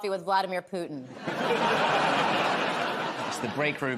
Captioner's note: laughter